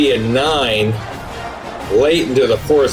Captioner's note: crowd Noises